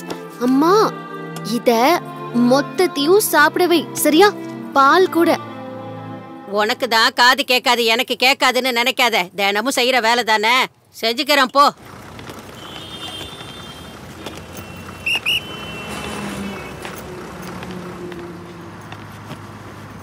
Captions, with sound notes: Nanny.... feed this entirely. Okay? Even the milk. You are the one who is deaf; not me. You repeat the same words everyday Go.. lady. Go! (Traffic sounds)